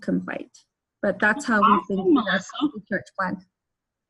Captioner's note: murmurs